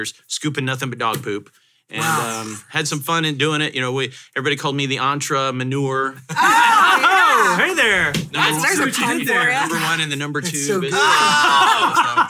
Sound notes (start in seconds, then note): 6.3 hosts cheer